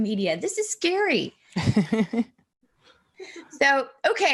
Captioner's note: chuckling